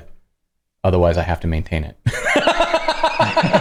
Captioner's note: laughter